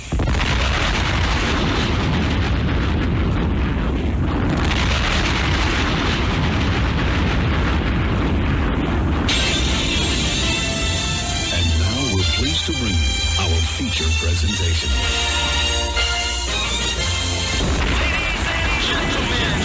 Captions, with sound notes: [explosion] [explosion] And now we're pleased to bring you our feature presentation. Ladies and gentlemen